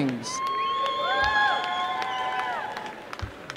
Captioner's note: applause and cheering